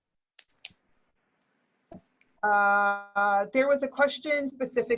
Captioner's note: keyboard typing